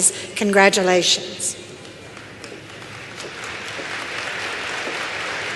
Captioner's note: applause